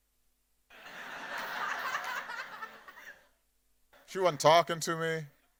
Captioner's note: audience laughing